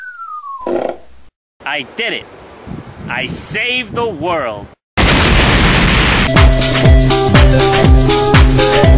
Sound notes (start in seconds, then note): 5.0 booooom